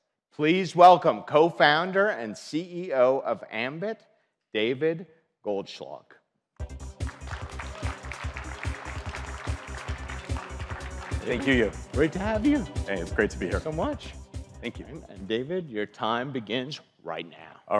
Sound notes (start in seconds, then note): 6.9 audience applauds